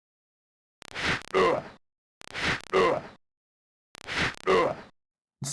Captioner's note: shitty DOS fighting SFx